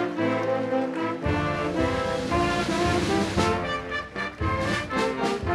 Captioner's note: audience applauding continues; upbeat band music continues